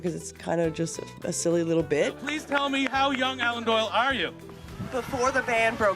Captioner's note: cheers and Applause